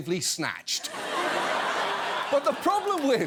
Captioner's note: laughter